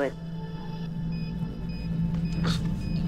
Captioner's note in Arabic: صفير